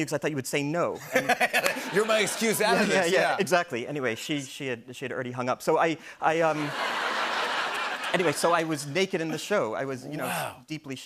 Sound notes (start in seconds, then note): 6.5 laughter